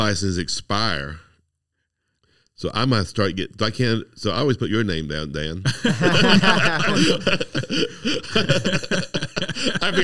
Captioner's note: laughing